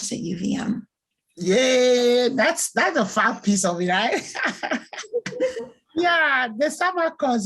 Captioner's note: laughs